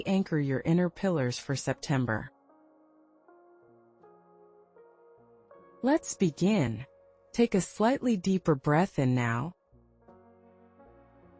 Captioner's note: pause